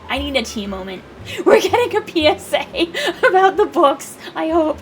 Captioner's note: laughing